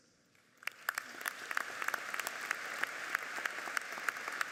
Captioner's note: audience applauds